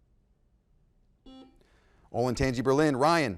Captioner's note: buzzer blaring